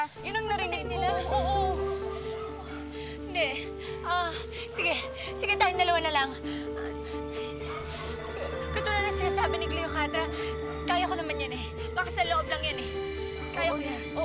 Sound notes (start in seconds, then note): 2.3 panting